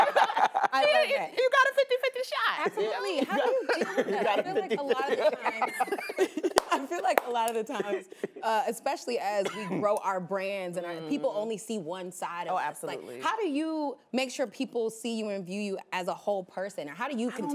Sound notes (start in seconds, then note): 5.8 laughs; 6.2 group laughing